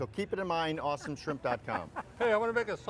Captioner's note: laughing